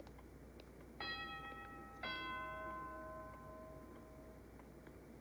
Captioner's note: doorbell ringing